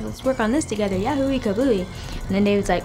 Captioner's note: speaks in foreign language